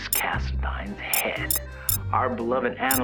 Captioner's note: comments start beeping in